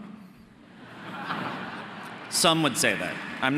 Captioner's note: audience laughing